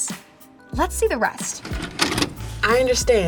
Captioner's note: videotape plays